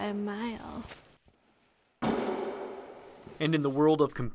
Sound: sack loudly thuds

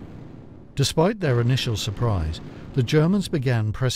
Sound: explosions boom

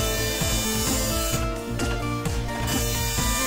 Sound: printer zips

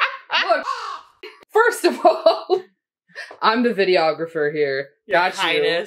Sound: caw

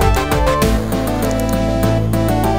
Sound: mouse clicking

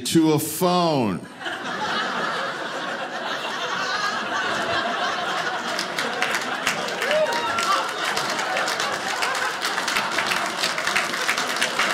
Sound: audience laughing

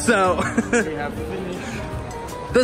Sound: laughs

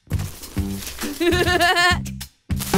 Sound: laughs

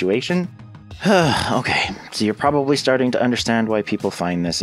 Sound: sigh

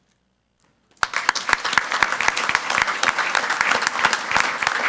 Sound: crowd clapping

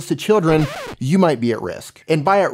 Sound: record scratches

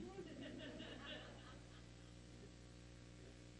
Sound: audience laughs

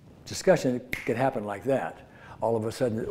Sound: snaps

